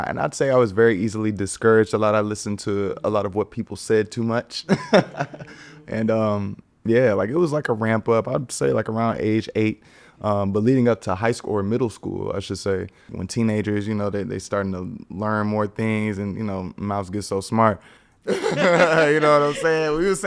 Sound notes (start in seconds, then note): 4.6 laughing; 18.2 everyone laughing